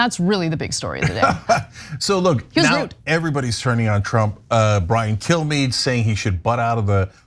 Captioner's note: laugh